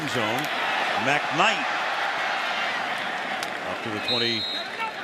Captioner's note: announcer on loudspeaker